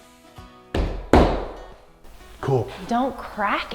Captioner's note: hand thudding